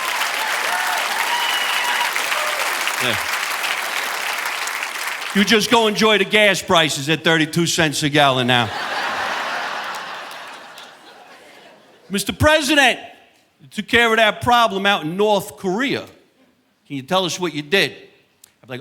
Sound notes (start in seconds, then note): 0.0 audience applauding; 8.5 audience laughing